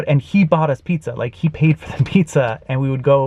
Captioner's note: laughs